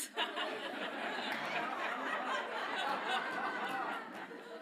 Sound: audience laughs

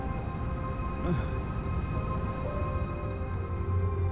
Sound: Flavio grunts

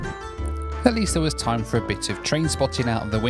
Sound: voiceover

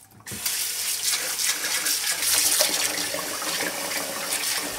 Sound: tap water running

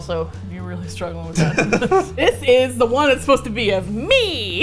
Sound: laughs

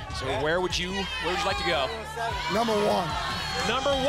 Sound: applause and cheering

